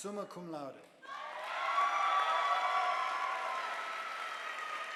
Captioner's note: audience applauding